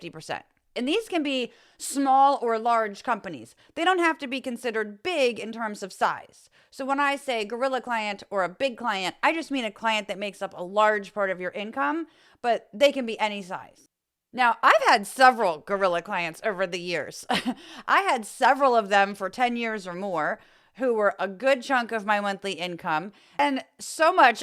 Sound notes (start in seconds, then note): 17.3 laugh